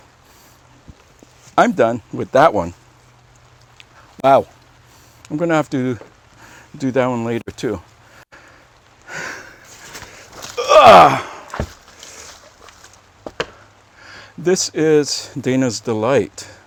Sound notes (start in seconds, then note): 10.5 grunt